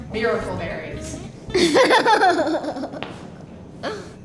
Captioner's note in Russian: смеется